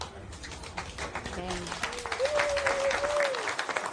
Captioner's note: people clapping and cheering